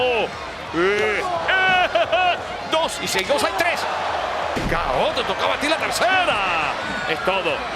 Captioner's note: laugh